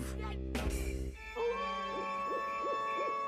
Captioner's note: wolf howling